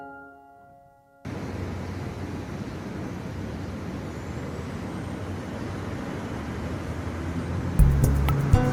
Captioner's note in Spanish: sonido de tránsito en ciudad